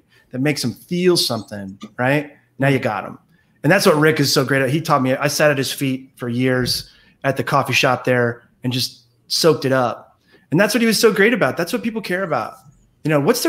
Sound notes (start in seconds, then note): none